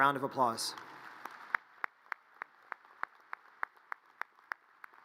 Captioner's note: audience applause